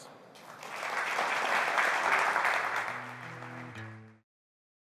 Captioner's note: applause